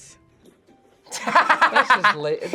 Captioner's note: laughs